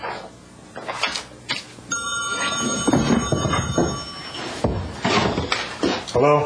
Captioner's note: phone ringing